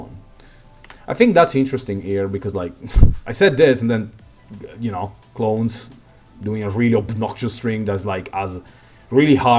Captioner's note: mic explosion